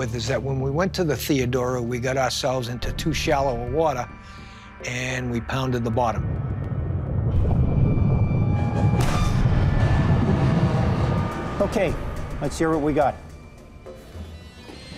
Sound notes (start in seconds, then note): 7.8 metals clanking